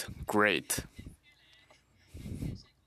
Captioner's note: speaking French